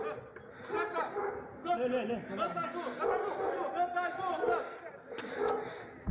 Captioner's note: people yelling in foreign language